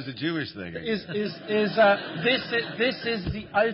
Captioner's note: laughter